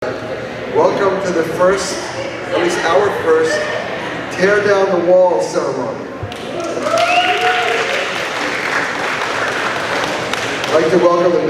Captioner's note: applause